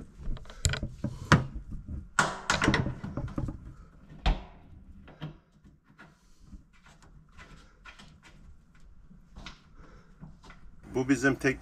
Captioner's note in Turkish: MEtal sesleri